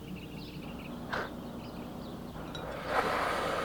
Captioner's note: birds chirp; Mrs. Hepp breathes deeply